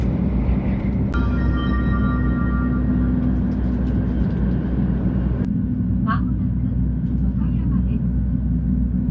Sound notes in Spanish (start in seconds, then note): 1.1 sonido de anuncio del tren Hello Kitty Shinkansen